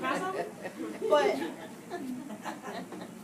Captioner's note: laughter from audience